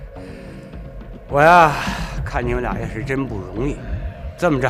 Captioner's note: sighs